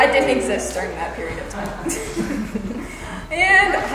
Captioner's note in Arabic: يضحك